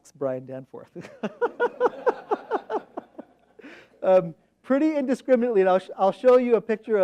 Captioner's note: laughs